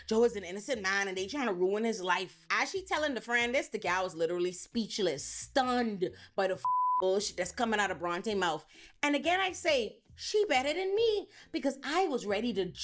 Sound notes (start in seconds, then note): 6.6 beep